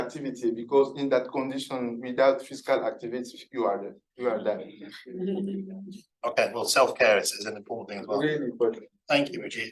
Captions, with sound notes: because in that condition without physical activity, you are dead, you are dead. (everybody laughing) - Okay, well self-care is is an important thing as well. - Really important.